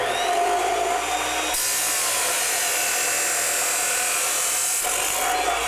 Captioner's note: metal grinding